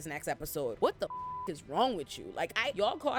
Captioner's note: beep